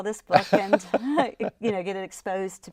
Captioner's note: laughing